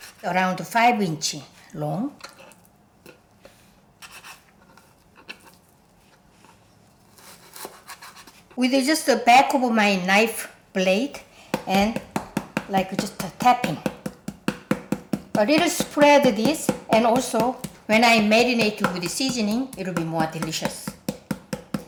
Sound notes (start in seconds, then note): 4.1 knife slicing; 11.9 knife thudding